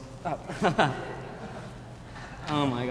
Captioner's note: laughing